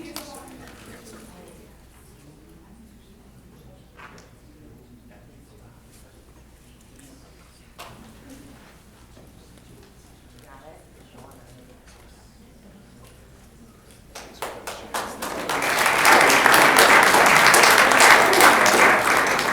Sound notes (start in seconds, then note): 14.1 applause